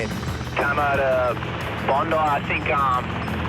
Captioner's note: man On Radio